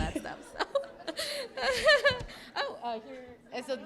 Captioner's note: laughter